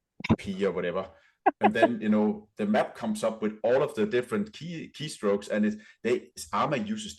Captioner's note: laughter